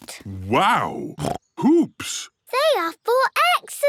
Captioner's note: snorts